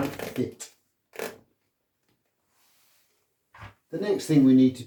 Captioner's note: shoe leather creaking